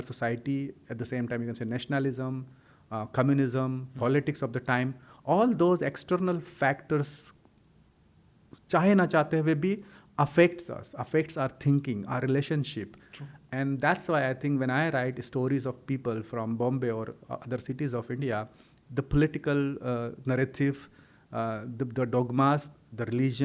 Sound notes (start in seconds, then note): 7.3 hindi